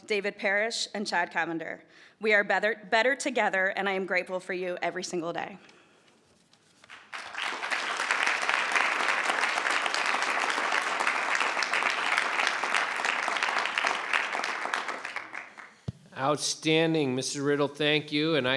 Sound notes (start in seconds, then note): 7.5 crowd clapping